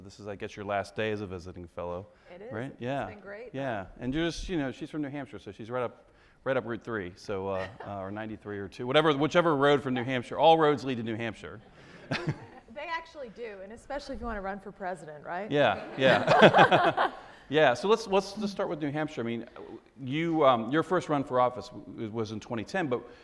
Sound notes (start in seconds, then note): 11.7 audience laughs; 15.7 both laugh